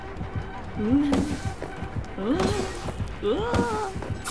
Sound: making weird noises

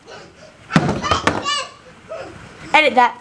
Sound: squealing offscreen

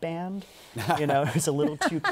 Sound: laughter

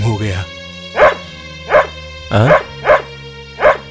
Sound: dog barks

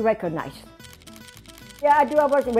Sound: camera shutters clicking

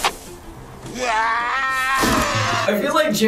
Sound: Jim Varney screaming

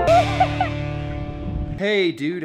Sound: laughing

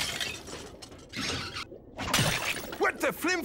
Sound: thudding

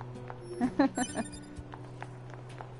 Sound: laughs

